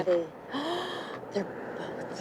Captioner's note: gasps